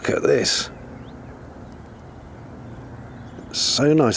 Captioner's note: birdsong and gentle background roar